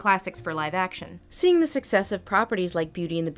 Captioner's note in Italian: voce fuori campo